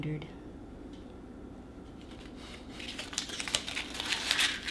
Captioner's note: paper crumpling